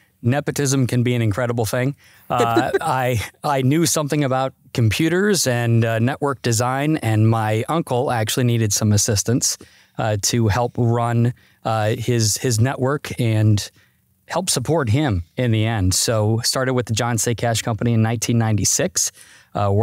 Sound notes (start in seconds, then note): 2.3 laughs